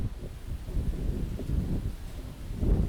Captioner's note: wind blowing